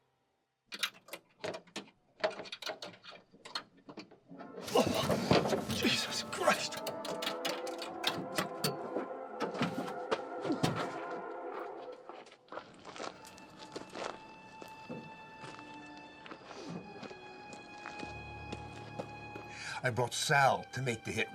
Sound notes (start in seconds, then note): 1.0 trunk clicking; 7.3 dramatic music; 12.9 gentle music